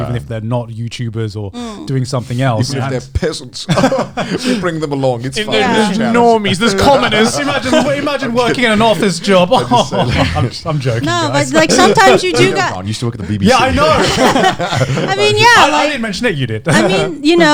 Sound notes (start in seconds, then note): 9.6 laughs; 14.3 all laughing